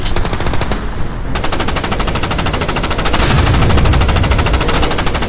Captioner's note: guns firing